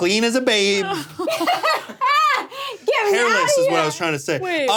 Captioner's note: laughs